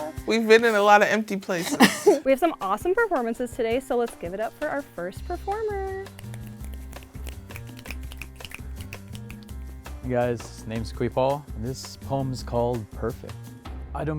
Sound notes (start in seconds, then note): 6.1 audience snaps